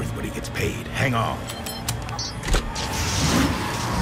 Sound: beeps; engines rev

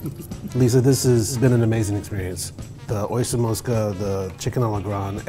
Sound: laughter

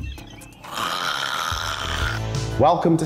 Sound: snorting laugh

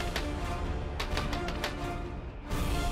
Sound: knocking on door

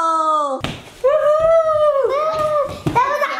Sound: whoops; mimics whoop

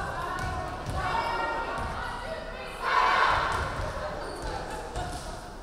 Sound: players chanting

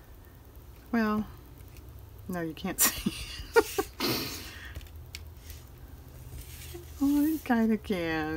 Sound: laughs

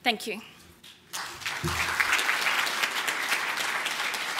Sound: applause

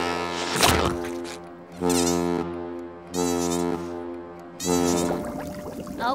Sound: horn blowing, squeaking

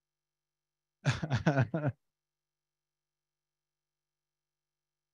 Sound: giggles

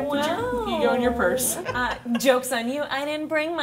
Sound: laughing

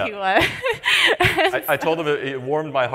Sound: laughs

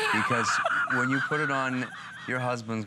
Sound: laughter

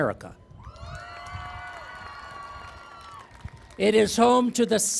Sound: cheering and Applause

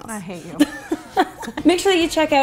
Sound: laughing

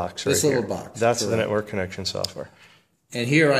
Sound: voiceover

